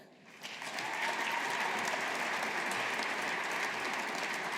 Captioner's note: audience applauding